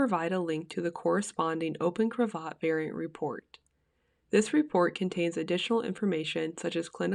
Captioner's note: click